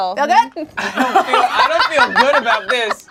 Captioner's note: group laughs